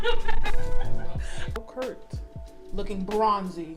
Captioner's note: loud laughter